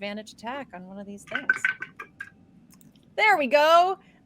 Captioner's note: dice rattling